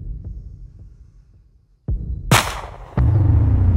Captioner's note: gunshot fires